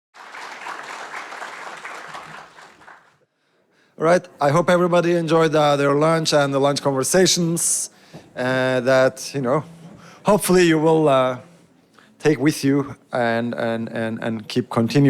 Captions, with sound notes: (audience applauds) - All right. I hope everybody enjoyed their lunch and the lunch conversations that, you know, hopefully you will take with you and keep continuing.